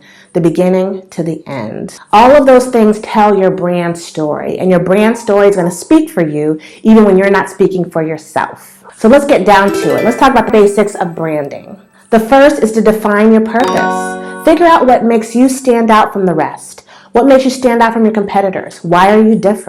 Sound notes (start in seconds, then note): 9.7 sound effect; 13.6 bell sound